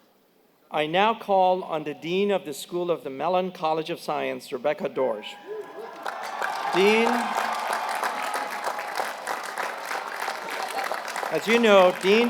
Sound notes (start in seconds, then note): 5.6 applause